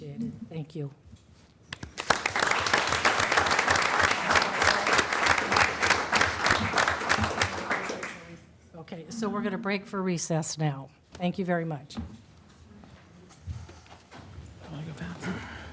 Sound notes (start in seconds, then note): 5.3 applause